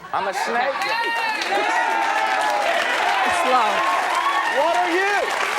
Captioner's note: audience cheering